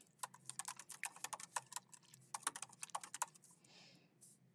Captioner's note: keyboard clacking